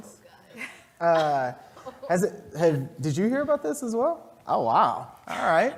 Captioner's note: laugh